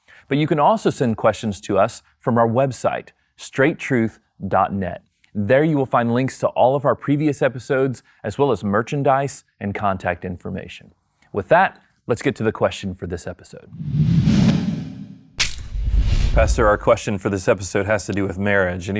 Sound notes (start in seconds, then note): 13.7 air whooshing